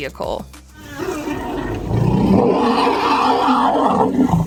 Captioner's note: elephants roaring